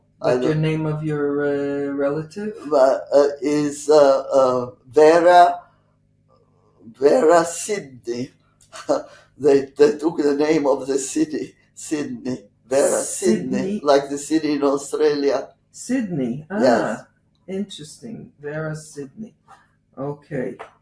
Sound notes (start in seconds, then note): 7.7 laughing